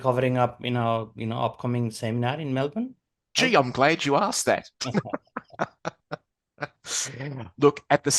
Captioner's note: giggles